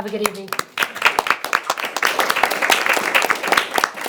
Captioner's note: all applaud